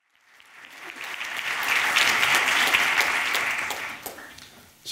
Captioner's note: audience applauding